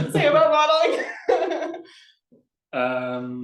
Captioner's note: laughs